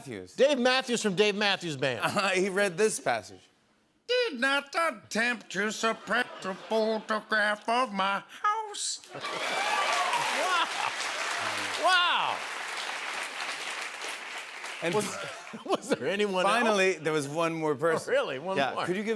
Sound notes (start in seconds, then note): 9.1 cheers and applause